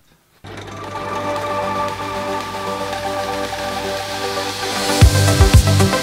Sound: machine whirring; gentle music; intense happy music

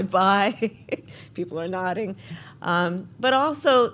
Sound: laughs

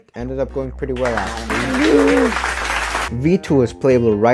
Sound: loud ass clapping

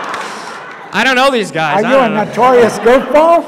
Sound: audience laughs

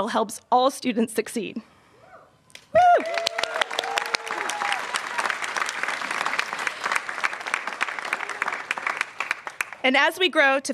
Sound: applause

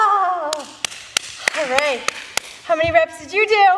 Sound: clapping

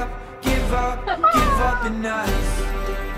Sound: bird noises

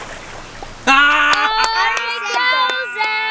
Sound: splash; laughing

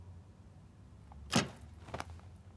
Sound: door shuts

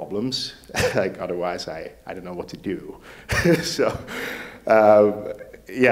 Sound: laughs; laughs

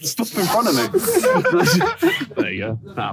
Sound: Tobi laughing

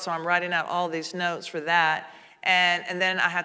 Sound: none

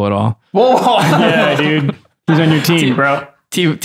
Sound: laughter

